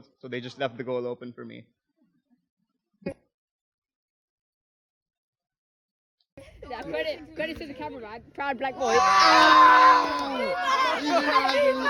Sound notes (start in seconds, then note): 7.0 boys cheering